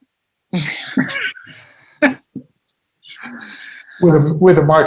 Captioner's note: people laughing